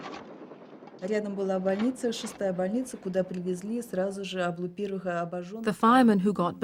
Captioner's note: speaking Russian